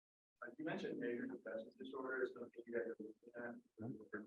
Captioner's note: speaking faintly